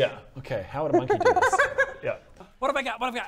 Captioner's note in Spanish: ruidos de chimpancé